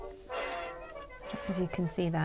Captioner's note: needles clicking